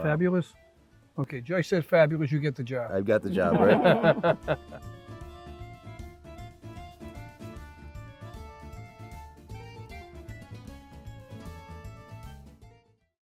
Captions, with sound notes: Fabulous? Okay, Joyce said fabulous, you get the job. I've got the job, right? (Judge laughs) (whimsical music)